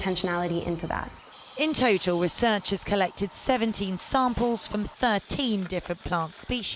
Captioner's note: voice-over